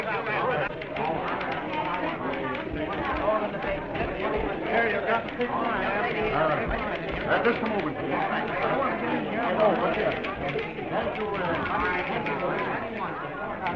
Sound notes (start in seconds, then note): 2.1 crowd chattering